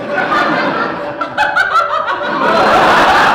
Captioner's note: giggling